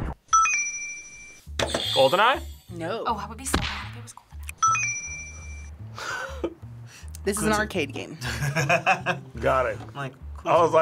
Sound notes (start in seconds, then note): 0.4 bell rings; 1.6 buzzer rings; 4.6 bell rings; 6.0 laughs; 8.2 laughs